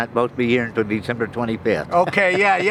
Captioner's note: laughs